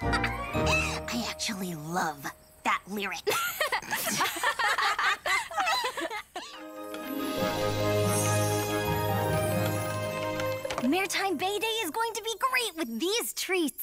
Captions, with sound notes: I actually love that lyric! (laughter) [bright music] Maretime Bay Day is going to be great with these treats!